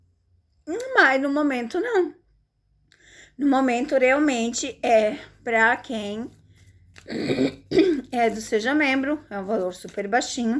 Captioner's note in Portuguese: limpando a garganta